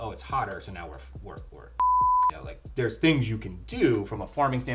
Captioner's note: beep